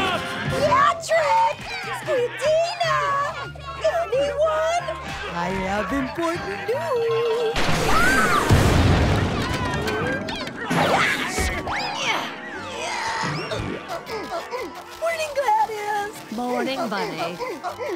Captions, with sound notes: Patrick! Squidina! Anyone? I have important news. [screaming] [grunting] Morning, Gladys. Morning, Bunny.